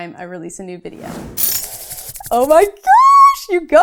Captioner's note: whooshing